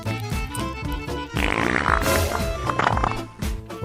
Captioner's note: arsi doing yogasan and she farts